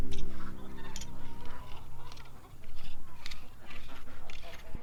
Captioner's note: tool scraping; chickens clucking